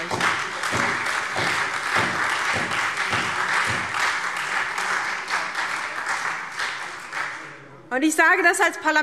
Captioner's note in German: Beifall SPD, AfD und Freie Demokraten